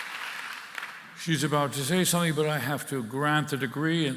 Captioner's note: applause